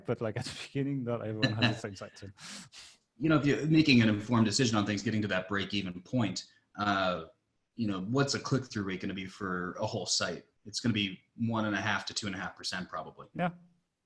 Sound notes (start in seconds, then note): 1.4 laughing